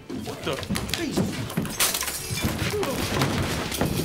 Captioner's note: glass shattering